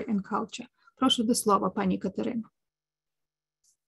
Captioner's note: speaking ukrainian